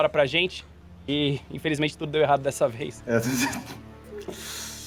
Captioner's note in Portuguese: risada